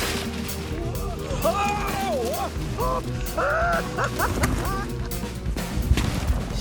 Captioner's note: lively music continues; Baratunde yelling and laughing